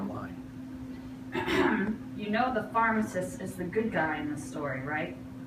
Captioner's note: coughs